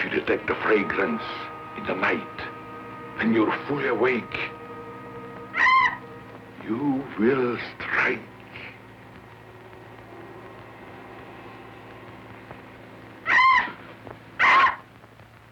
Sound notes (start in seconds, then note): 7.2 screech